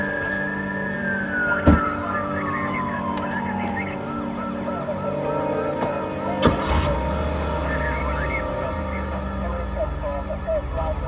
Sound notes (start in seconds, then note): 6.4 engine starts